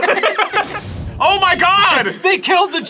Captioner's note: explosion sound from ad